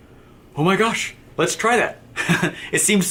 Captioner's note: laughs